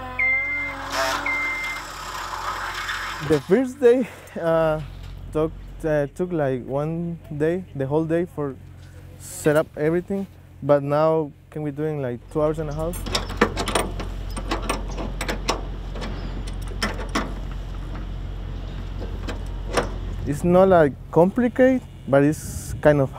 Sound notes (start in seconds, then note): 0.0 sound of scissor lift; 0.0 sound of drilling; 12.7 sounds of wrenches on metal